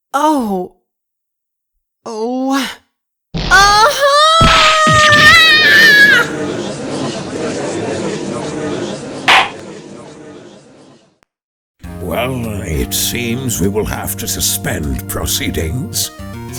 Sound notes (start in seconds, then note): 6.2 gallery chattering; 9.3 gavel slams!